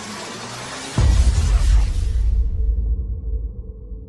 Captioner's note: electronic whirring; boom